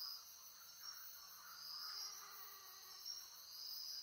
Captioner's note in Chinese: 蚊子的聲音